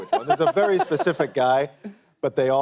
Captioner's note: laughs